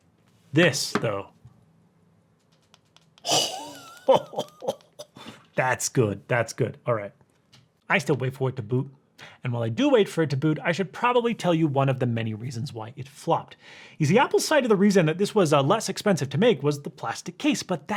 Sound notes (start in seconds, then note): 3.2 cough